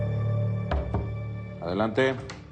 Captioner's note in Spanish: Toques en la puerta